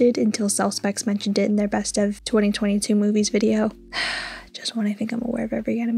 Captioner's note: sigh